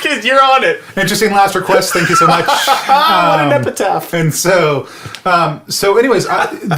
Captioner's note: laughs